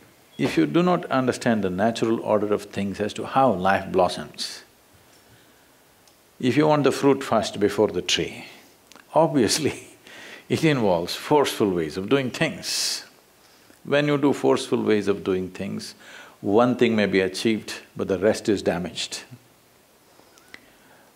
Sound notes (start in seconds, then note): 10.0 laughs